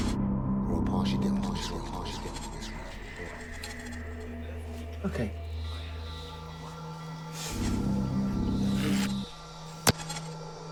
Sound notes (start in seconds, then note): 3.9 voice echoing; 7.8 ominous music